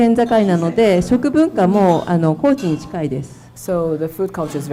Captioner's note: speaking foreign language